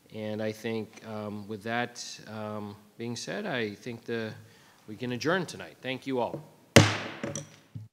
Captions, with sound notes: And I think with that being said, I think we can adjourn tonight. Thank you all. (gavel bangs)